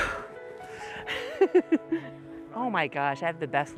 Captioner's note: laughs